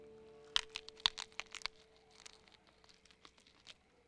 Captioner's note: crunching